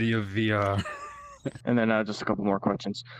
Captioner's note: laughs